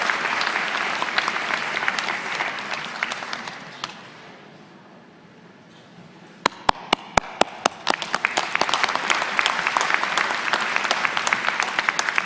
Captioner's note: applause